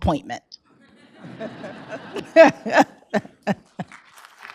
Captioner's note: laughter; applause